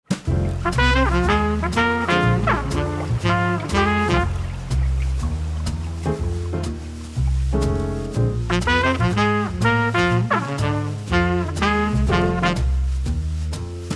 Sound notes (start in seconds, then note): 0.3 upbeat jazz music; 3.9 water burbling